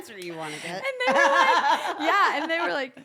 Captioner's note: laugh